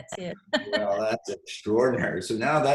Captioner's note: laughs